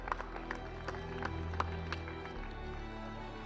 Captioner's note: cheering